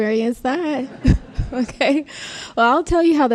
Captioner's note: crowd laughs